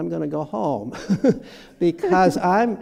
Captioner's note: laughter